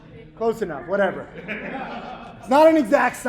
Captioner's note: laughing